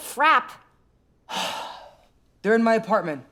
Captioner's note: sighs